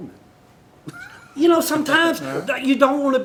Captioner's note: laughter